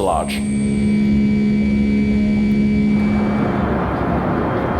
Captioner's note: plane engine roaring